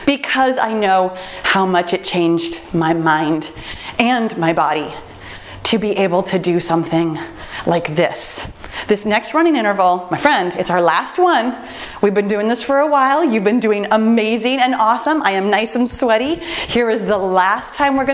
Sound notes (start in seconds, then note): 14.9 timer beeps